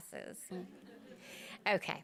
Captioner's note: audience chuckles